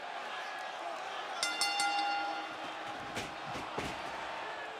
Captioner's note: bell dings